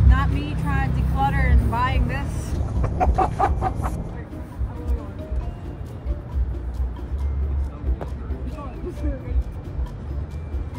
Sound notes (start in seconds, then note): 2.6 distorted laughing